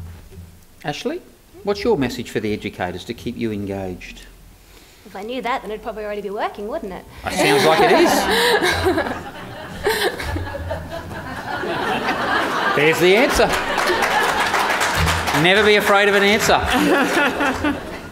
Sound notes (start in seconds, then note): 9.8 audience laughter; 13.7 audience applause